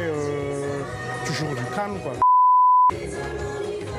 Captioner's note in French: bip